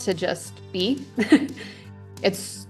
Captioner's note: laughs